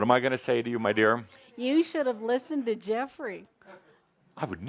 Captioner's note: in a funny sarcastic voice